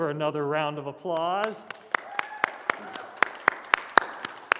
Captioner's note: applause